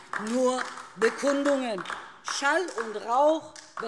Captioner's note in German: Beifall DIE LINKE